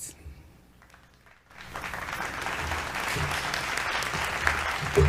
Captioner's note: graduands clapping